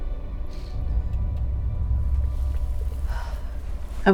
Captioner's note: ship hums